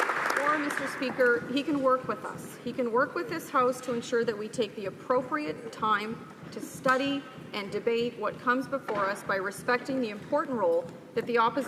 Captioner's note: some Applause